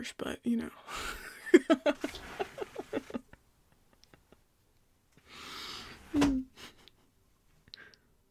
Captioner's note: he laughs in amusement as the window opens and then shuts